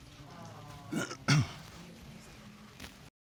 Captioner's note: clears throat